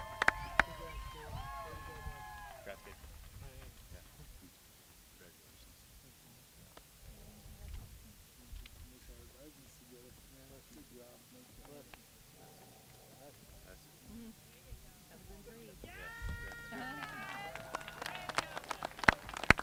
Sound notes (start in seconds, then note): 5.1 applause